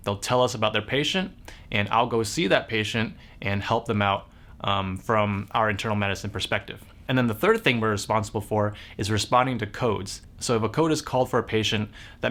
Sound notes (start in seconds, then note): none